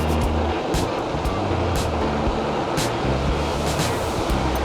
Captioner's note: wind rushes past